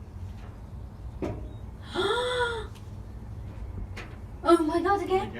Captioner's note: soft knocking; gasping